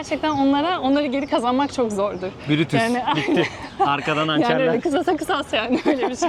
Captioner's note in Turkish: kahkaha